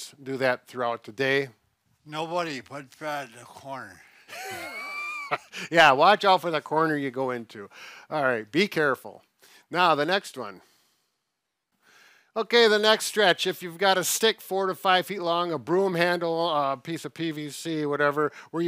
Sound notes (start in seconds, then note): 4.2 laughs